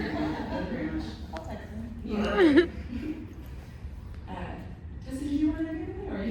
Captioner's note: laughter